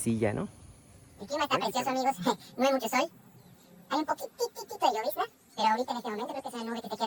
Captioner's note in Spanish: voz rápida